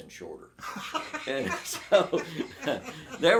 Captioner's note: both laughing